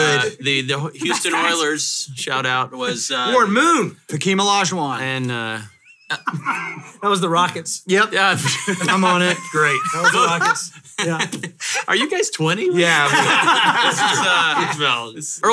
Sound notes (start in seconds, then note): 8.4 laughs; 12.9 hosts laugh